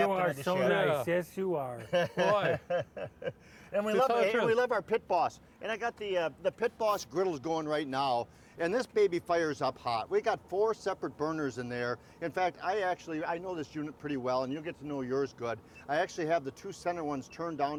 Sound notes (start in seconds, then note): 1.8 laughing